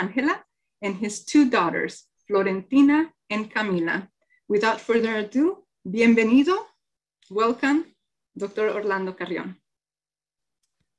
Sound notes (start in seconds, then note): 5.5 speaking in foreign language